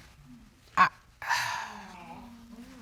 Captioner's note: sighs